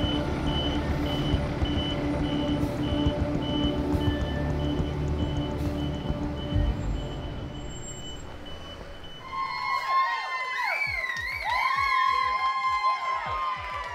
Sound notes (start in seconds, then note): 9.0 crowd cheering